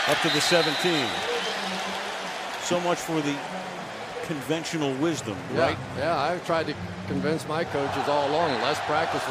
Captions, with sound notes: Up to the 17. [pa announcement] So much for the conventional wisdom, right? Yeah, yeah. I tried to convince my coaches all along.